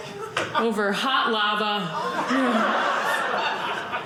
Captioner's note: audience laughing